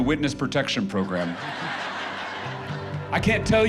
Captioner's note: crowd laughing